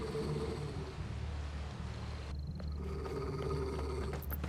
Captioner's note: growl